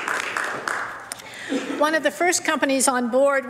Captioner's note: some Applause